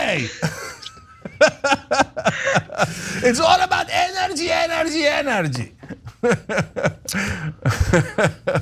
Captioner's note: laugh